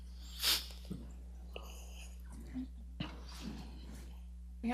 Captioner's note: sniffing